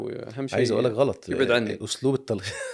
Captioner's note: laughs!